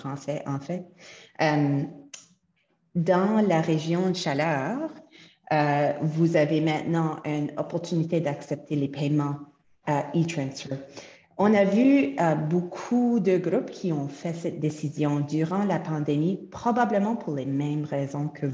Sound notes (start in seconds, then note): 4.5 French; 14.1 French